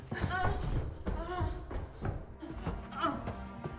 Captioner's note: moaning